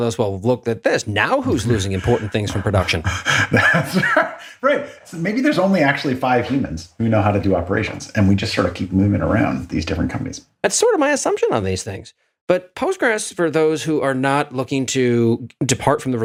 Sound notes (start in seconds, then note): 1.4 laugh